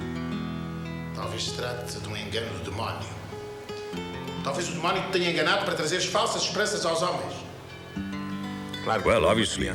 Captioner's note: speaking portuguese